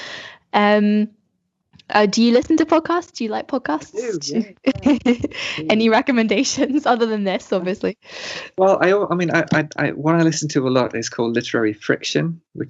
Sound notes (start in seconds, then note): 3.8 laughs